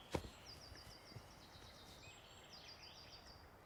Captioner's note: birds singing